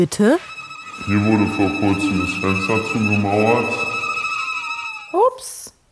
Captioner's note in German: verzerrt